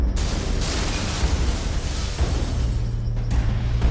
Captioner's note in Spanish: Explosión